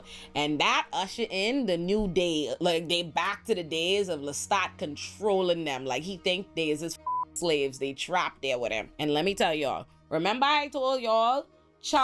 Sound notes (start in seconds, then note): 7.0 beep